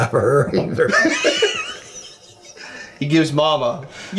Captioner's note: laughing